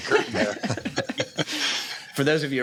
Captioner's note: laughter